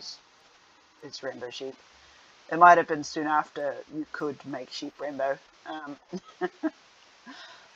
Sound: laughs again

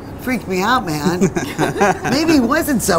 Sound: laughs

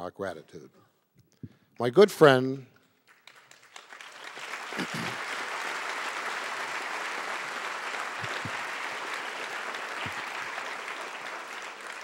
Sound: audience applause

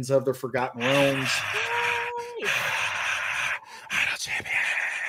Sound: cheering; whispers

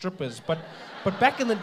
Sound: audience laughing

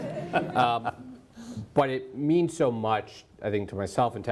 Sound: laughing

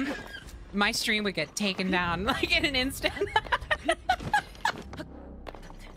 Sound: laughter

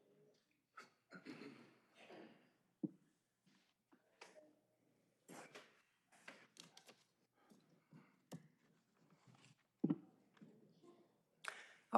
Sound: applause

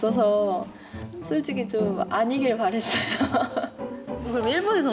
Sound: haha

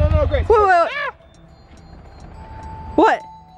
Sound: screams

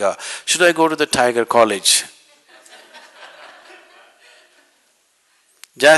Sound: laughter

